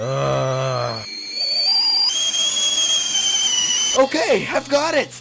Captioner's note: tea kettle sounds of A N G E R